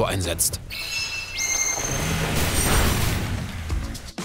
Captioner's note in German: Klingelnde Geräusche, Motorengeräusche